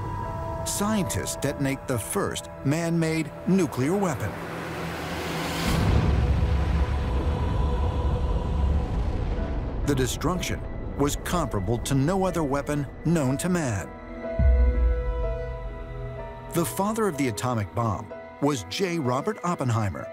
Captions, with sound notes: scientists detonate the first man-made nuclear weapon. -[booming] -[dramatic music playing] The destruction was comparable to no other weapon known to man. The father of the atomic bomb was J. Robert Oppenheimer,